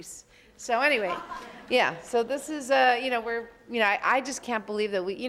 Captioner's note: audience laughs